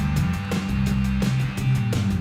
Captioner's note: applause